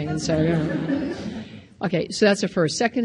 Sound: audience laughs

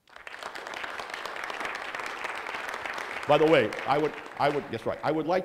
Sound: clapping

